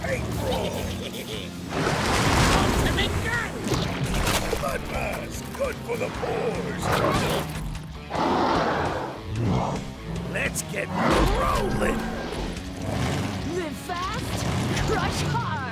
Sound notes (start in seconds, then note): 8.0 roaring